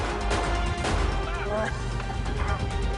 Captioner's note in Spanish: Disparos